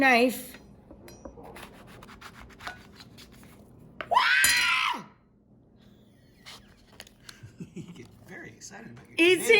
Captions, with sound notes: You take your knife. (Rachael screaming and laughing) You get very excited about your tomatoes.